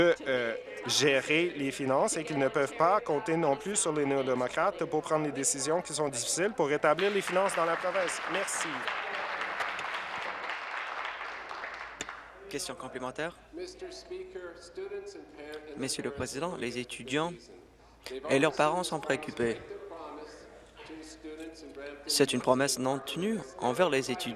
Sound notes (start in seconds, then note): 9.8 voice trails; 12.3 applause